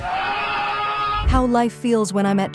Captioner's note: person exclaiming